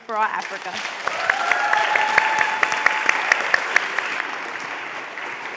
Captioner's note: applause